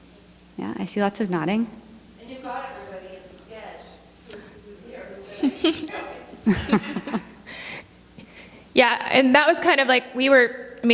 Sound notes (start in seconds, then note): 7.0 laughing